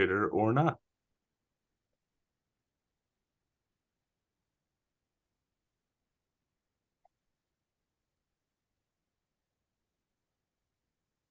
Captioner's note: silence